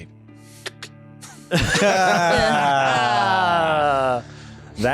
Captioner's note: laughter